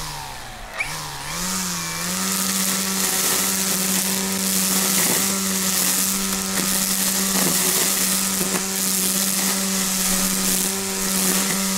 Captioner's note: sounds of a motor running